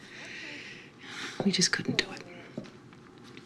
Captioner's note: sighs